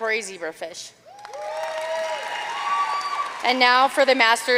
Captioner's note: audience cheering and applauding